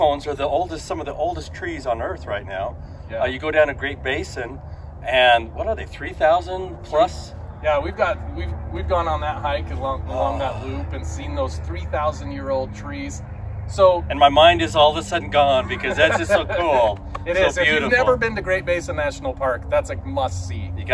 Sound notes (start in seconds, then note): 15.4 laughs